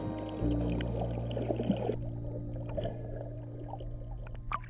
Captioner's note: water burbling